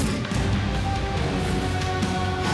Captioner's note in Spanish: Golpes